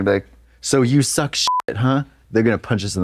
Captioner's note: beep